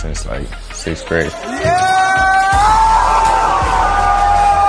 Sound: crowd cheering

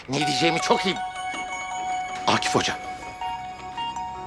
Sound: phone rings

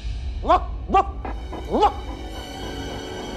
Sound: barks

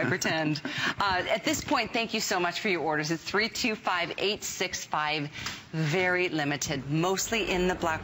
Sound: laughter

